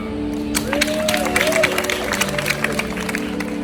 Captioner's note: audience applause